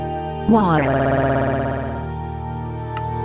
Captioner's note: crying